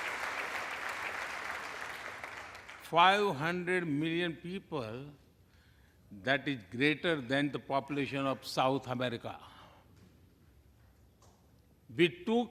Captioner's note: applause